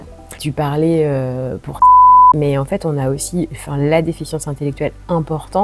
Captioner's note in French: bip